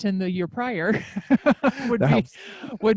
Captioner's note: laughs